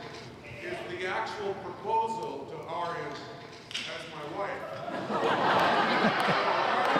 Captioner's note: all laughing